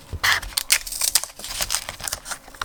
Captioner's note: marker draws; tape tears; scissors snip